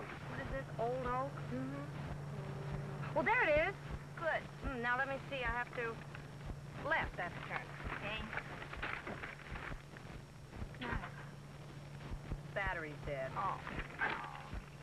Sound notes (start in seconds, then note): 10.9 engine sputters